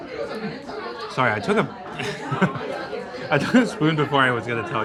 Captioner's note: laughing